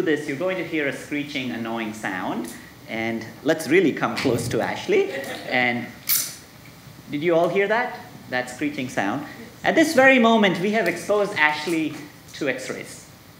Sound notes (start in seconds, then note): 4.9 audience laughing; 6.1 tape squealing